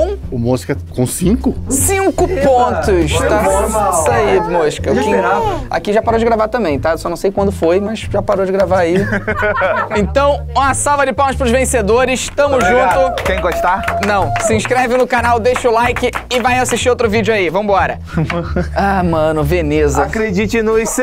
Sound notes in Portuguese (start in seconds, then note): 8.9 risadas; 12.2 palmas; 19.8 cantando